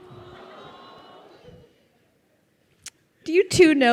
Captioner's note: crowd awing